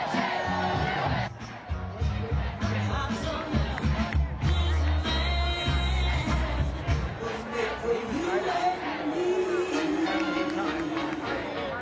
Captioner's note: crowd chanting "usa, usa, usa"